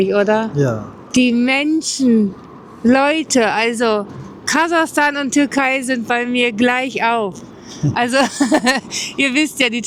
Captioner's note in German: gelächter